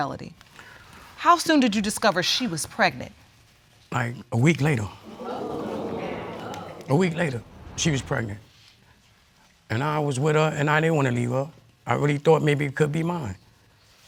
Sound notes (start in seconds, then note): 5.0 audience groans